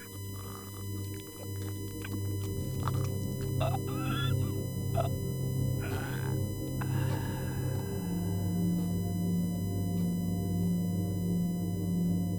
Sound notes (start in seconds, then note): 1.0 slurping; 5.7 wheezing